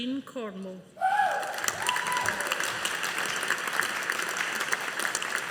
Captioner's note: audience applauding